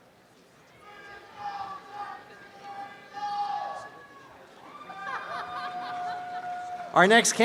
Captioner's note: cheering